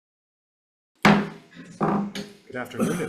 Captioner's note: gavel bangs